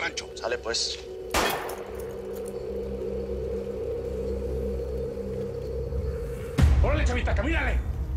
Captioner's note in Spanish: Disparo